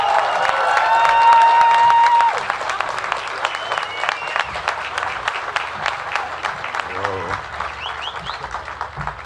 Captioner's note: cheers and applause